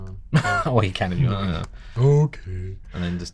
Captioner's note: mumbles